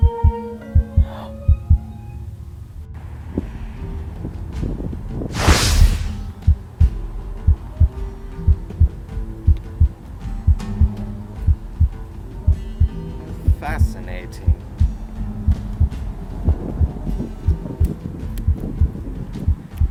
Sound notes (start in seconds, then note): 5.3 woosh; 6.9 A steady heartbeat